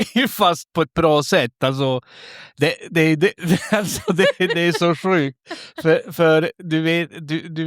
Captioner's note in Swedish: skratt